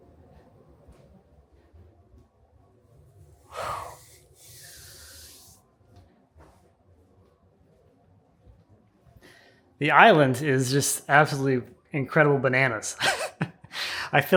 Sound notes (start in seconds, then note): 3.4 presenter exhales; 3.5 hand scraping; 13.0 chuckles